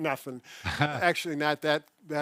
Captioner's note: laughs